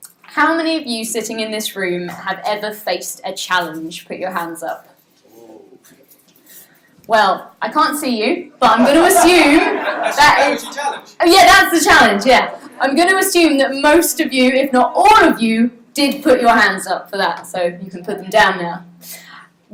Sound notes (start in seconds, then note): 8.7 audience laughs